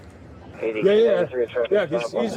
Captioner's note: radio chatter